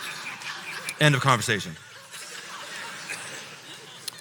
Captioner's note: laughter